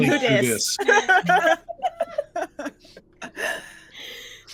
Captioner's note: all laughing